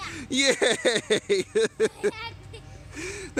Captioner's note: laughing; more laughter